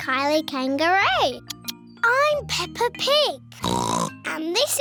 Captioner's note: oinks